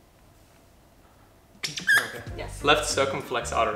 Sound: squeaks

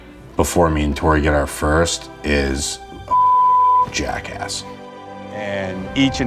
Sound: beeps

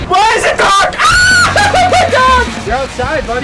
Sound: screams

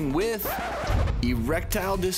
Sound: record scratch

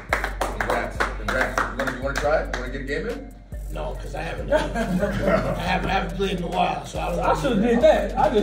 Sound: applause

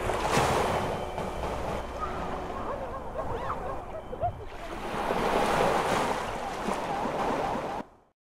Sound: water and nature sounds

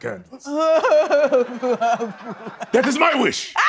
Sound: sobbing; laughing

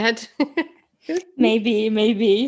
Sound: chuckling

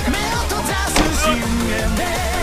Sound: door slamming; foreign music playing

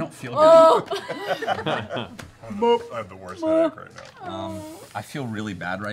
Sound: mockingly repeats her cry of relief

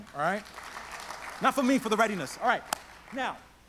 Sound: audience applauds

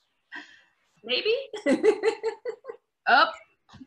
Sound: laughs

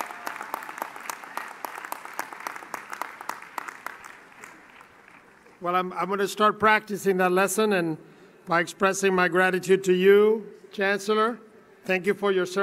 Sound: cheering and Applause

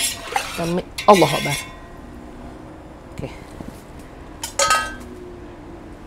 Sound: mixture bubbling away

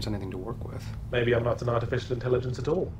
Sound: voiceover

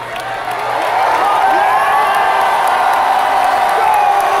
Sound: crowd erupts again

